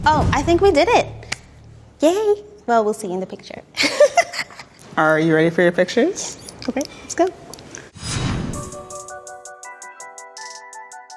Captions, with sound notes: - Oh, I think we did it. Yay. Well, we'll see in the picture. [both laughing] - Are you ready for your pictures? - Yes. - Okay, let's go.